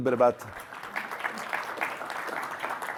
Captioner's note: applause